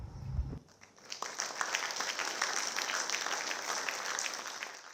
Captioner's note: audience clapping